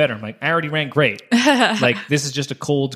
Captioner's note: laughing